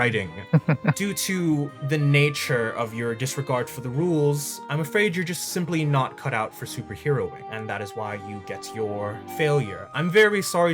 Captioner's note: laugh